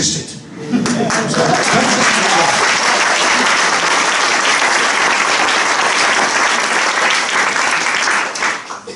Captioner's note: applause